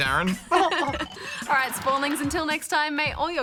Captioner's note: chuckles